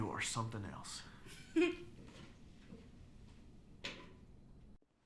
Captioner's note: exhales; Cathryn laughs